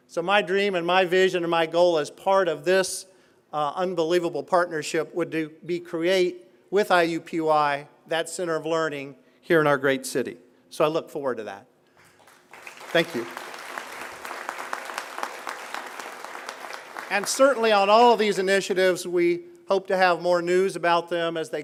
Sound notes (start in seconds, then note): 16.0 applause